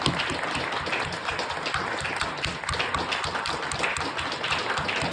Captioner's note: applause and cheers continue